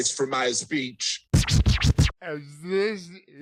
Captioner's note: old-school record scratch